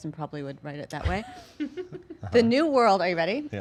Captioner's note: laughing